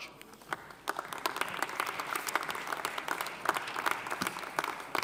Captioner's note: audience applauding